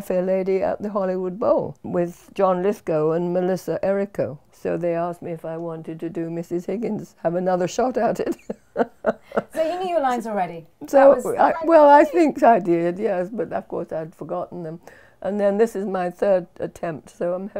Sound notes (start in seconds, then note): 8.2 laughs